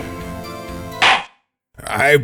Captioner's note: gavel slams!